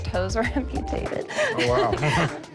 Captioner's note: laughs